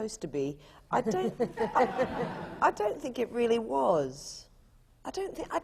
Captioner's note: laughter